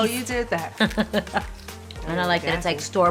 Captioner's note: laughs